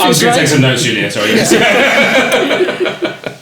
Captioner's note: laughing